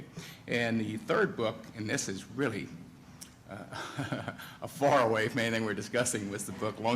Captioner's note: chuckles